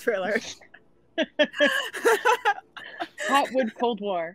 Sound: group laughing

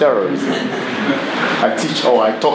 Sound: everyone laughs

